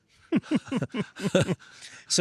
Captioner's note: laughing